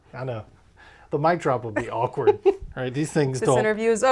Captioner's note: laughs